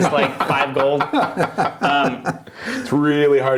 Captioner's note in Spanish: risas